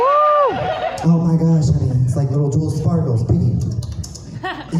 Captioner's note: lip smacking sounds